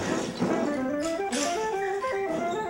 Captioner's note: shells clanking; baskets hitting the dock